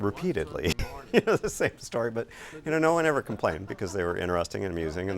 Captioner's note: laughing